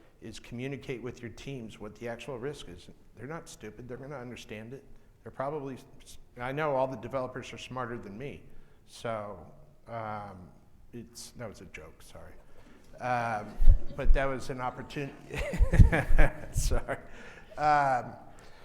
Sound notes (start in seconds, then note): 15.9 laughing